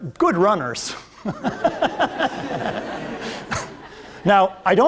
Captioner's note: laughter